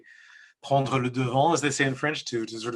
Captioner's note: speaks in French